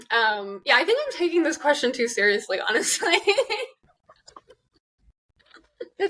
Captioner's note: both laugh